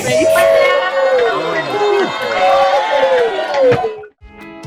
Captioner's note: everyone cheering